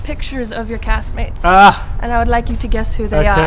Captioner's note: laughs